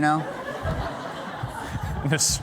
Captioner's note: laughter